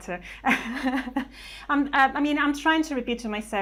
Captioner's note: laughs